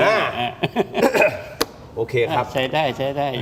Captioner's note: laughs